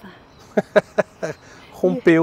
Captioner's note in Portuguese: risos